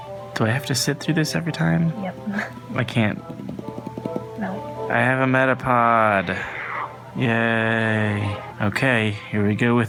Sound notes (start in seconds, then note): 2.5 scoff-laughs; 3.6 tapping force audibly increases